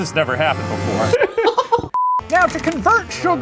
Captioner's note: laughing